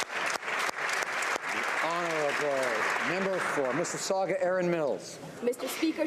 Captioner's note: applause